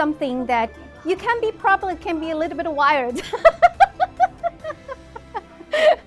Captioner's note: laughs